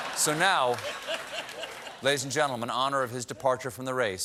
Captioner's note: laughter